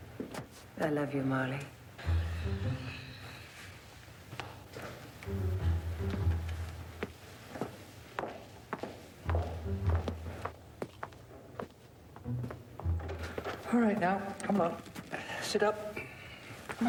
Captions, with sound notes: - I love you, Marlee. (Marlee sighs) (footsteps clacking over playful orchestral tones) - All right now, come on, sit up.